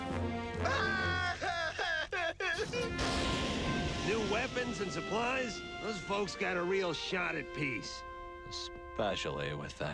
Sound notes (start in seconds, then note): 0.5 sobbing